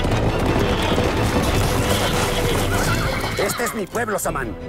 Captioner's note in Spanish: Relinchos